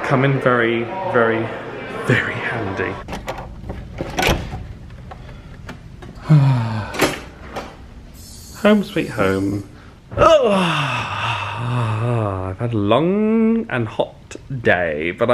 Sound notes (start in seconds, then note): 3.0 lock clunks; 10.1 elongated sigh